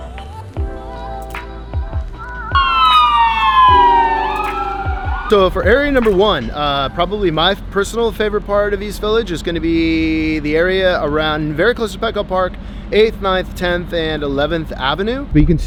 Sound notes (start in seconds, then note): 2.2 siren wailing